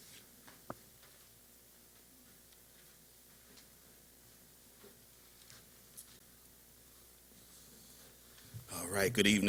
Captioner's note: silence